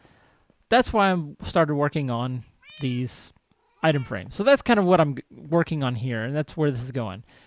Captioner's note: cat meows